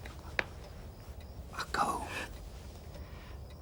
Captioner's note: whispers